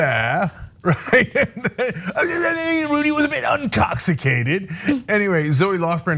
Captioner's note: laugh